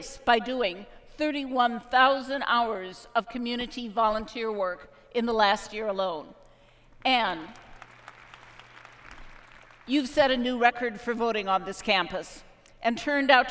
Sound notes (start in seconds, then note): 7.2 applause